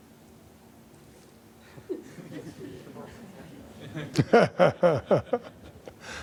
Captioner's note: laughter